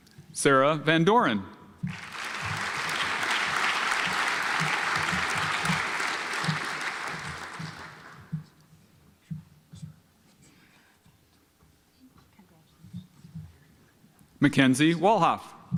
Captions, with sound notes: Sarah Van Dorin (audience applauds) Mackenzie Walhof